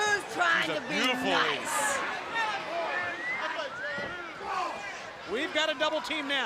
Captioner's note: crowd chatter